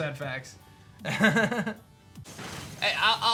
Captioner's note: laughs